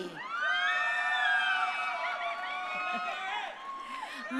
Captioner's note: crowd cheering